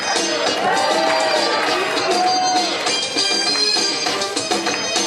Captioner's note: audience cheering